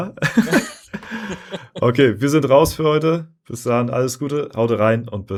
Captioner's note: laughter